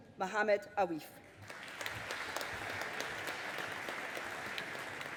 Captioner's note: audience applauding